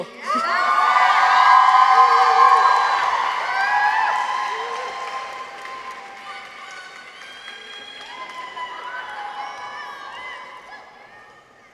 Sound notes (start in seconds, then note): 0.2 people cheer; 0.7 audience applauds; 6.8 audience members cheer